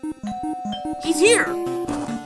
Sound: doorbell

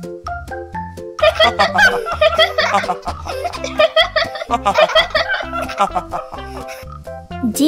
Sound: laugh

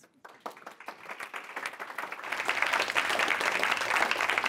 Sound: applause

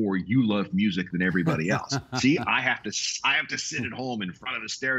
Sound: laughing

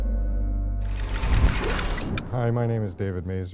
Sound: rapid metallic clicking

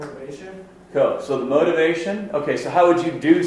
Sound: voiceover

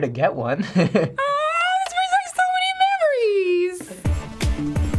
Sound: chuckles; squealing; industrial music

